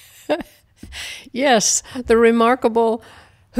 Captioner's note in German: Gelächter